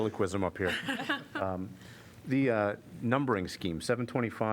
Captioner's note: laughter